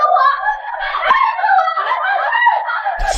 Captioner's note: scream